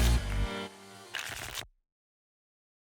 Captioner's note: tickets shuffling